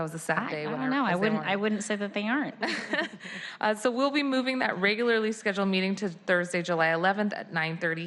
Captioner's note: laughter